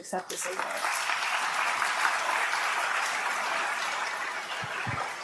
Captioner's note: applause